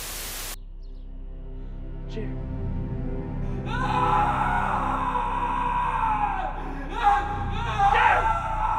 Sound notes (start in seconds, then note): 3.6 screaming